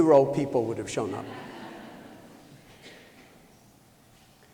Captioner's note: laughter